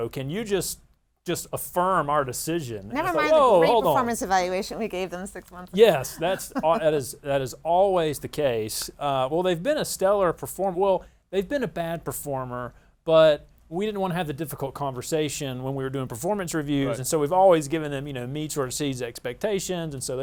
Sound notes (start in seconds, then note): 5.8 laughs